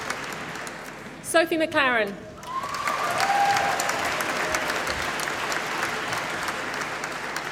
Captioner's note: applause